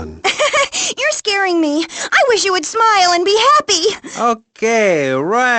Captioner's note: softly laughs